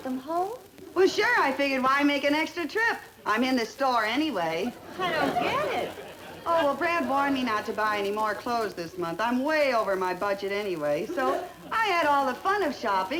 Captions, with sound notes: - No I returned them - You mean to say you returned all those things before you brought them home? - Well sure, I figured why make an extra trip I'm in the store anyway (audience laughter) - I don't get it - Oh, well Brad warned me not to buy anymore clothes this month